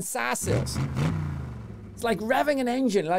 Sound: engine revving

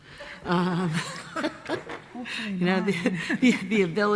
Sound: many laughing

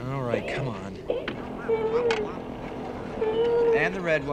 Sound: whining

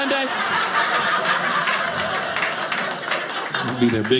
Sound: audience laughing

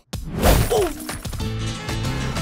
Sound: grunting

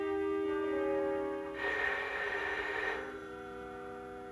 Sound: phone ringing

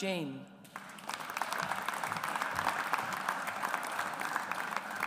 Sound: audience applauds

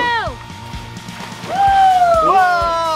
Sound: cheering

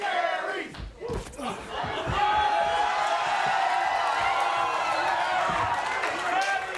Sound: men heaving; audience cheering

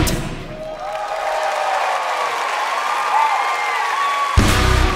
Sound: audience clapping

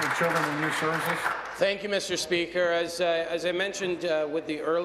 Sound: applause

